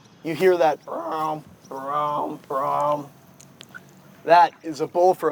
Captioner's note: groaning